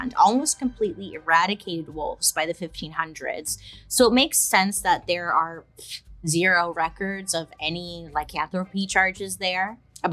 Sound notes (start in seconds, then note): none